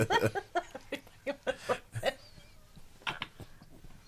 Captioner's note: all laughing